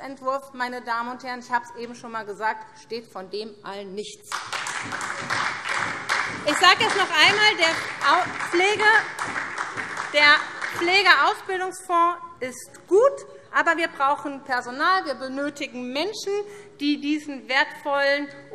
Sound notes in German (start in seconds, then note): 4.3 Beifall SPD